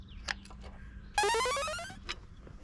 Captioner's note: success Sound